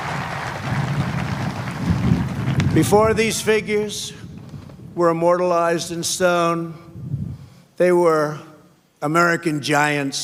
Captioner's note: applause